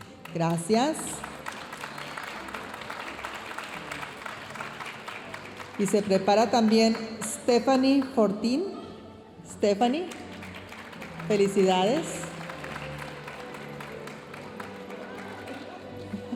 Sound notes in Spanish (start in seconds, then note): 1.1 aplausos de la audiencia; 12.6 aplausos de la audiencia